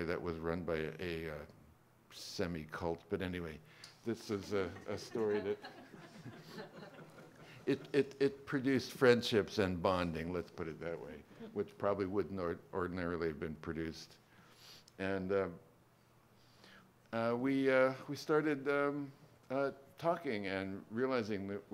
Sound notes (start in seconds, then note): 4.4 laughter